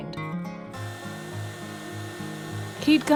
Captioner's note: whirring of heat-gun